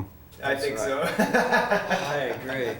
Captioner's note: laughs